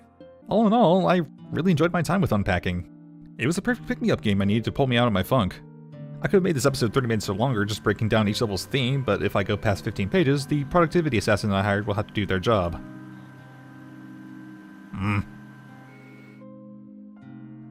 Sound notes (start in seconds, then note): 14.9 annoyed grunt